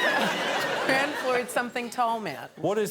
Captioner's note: audience laughs